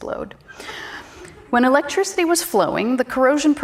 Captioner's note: audience chuckles